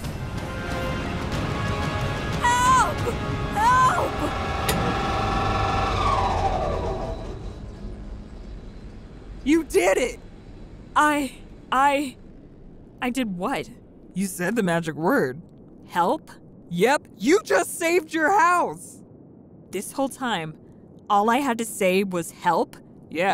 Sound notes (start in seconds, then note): 0.3 intense music; 4.2 train whirring; 4.6 button clicking